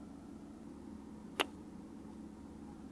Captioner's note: kiss